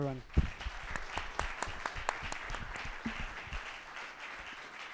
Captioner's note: audience applauding